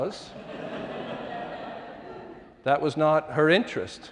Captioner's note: audience laughing